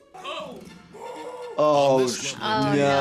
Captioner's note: men yelling